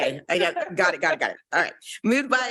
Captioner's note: laughing